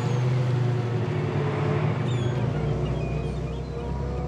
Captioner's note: birds chirping